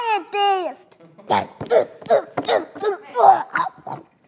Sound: grunts

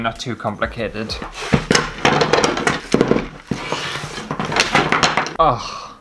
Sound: wood Pieces Clattering

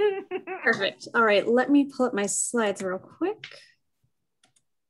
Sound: laugh

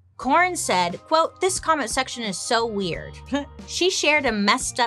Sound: chuckles

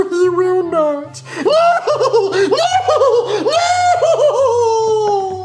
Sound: hysterically laughing

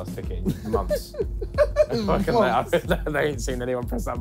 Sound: laughing

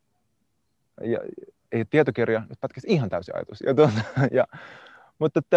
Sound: laughs

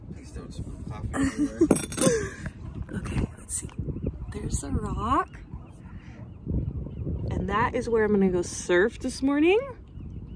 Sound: laughing

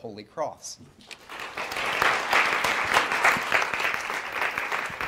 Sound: audience applauds

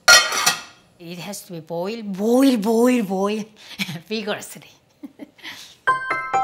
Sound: laughs

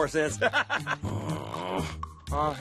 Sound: chuckling; laughs; groans

